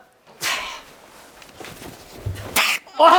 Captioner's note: stumbling